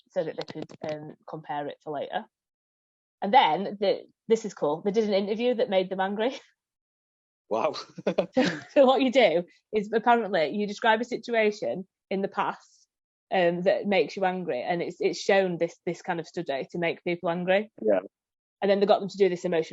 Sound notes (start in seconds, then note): 7.6 laughs